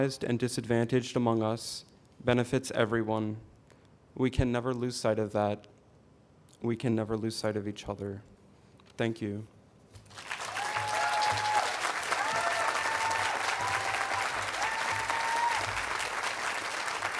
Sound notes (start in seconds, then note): 10.0 audience cheering and applauding